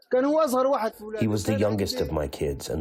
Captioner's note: through translator